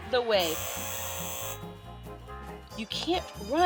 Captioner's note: buzzer buzzing